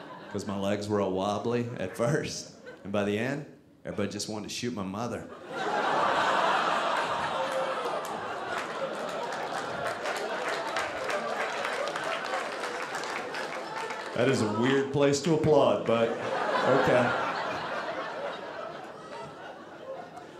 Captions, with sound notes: 'cause my legs were all wobbly at first, and by the end, everybody just wanted to shoot my mother. (audience laughing) (audience applauding) That is a weird place to applaud, but okay. (audience laughing)